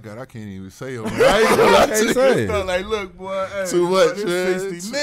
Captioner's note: laughing loudly